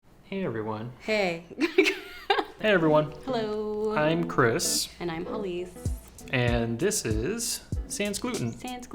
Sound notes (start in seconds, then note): 1.6 chuckling